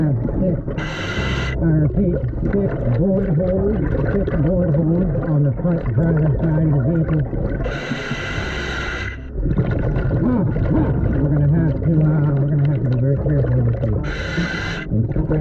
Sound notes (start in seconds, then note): 7.2 suspenseful music continues; 7.6 mouthpiece hissing